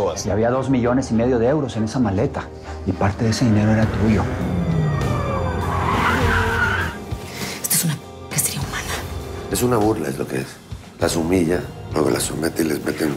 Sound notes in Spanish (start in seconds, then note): 5.5 Chirrido de llantas